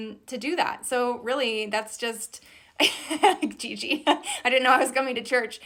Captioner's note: laughs loudly